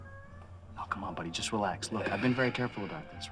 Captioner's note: sighs